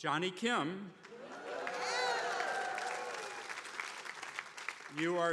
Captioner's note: attendees applauding